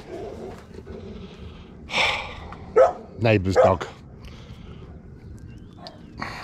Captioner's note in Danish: hund gøende